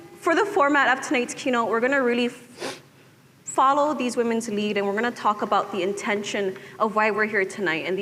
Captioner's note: none